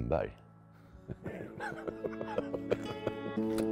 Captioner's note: evil laughter